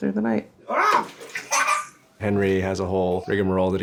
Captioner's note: giggles